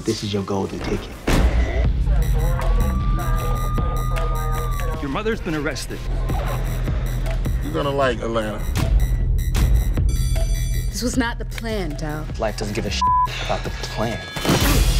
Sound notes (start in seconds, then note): 2.0 police sirens; 9.0 drum beats; 10.2 school bell rings; 12.9 beep